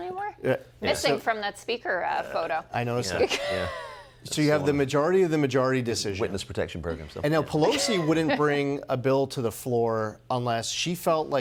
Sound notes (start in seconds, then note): 8.7 laughter